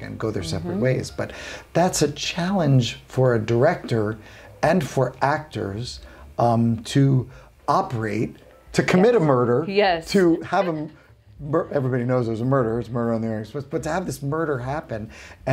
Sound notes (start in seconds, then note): 10.1 chuckling